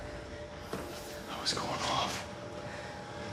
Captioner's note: whispers